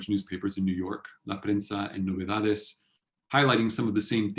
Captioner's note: spanish